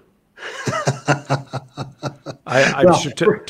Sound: laughs

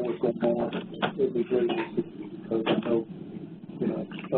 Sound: loud clacking

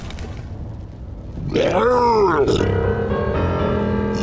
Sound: unusual zombie gurgling noise

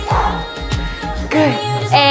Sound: exhales

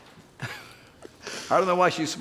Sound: laughing

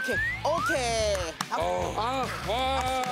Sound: inputting clap; outputting clap

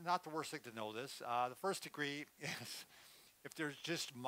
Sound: laughs

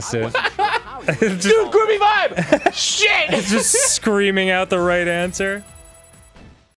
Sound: laughs at the thought; laughing

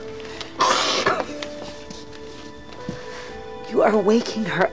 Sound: sobs

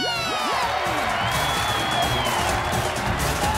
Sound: cheering

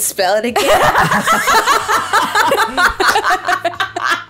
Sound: all laughing

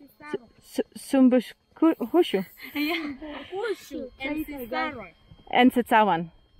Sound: laughing

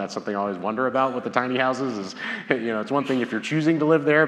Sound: laughs

